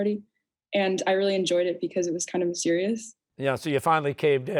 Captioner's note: none